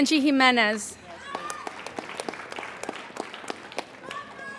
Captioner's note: applauding